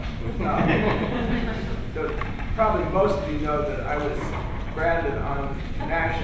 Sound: laughter

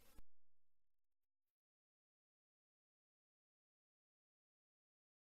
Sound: silence

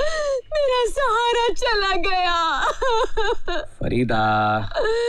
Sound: wailing; wailing

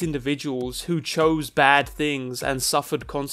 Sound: none

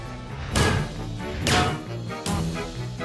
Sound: banging

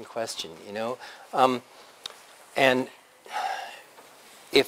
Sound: pause

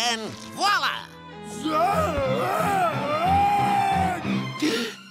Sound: screaming

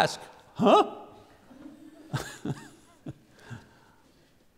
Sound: laughing; audience laughing

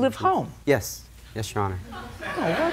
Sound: laughter

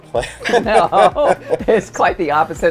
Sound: laughs

